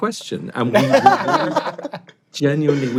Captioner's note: all laugh